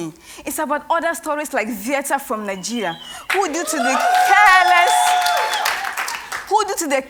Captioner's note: cheers and Applause